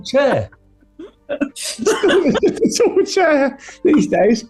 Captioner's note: laughter